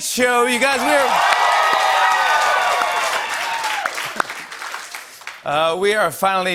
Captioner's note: cheers and applause